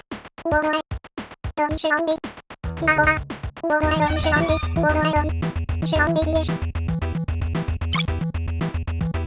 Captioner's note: sounds resembling video game dialogue